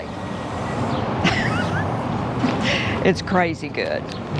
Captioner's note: chuckles